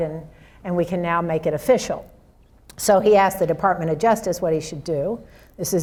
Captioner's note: none